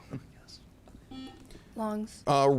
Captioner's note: buzzer chimes